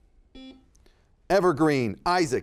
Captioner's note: buzzer beeping